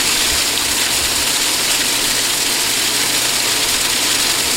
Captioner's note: water spraying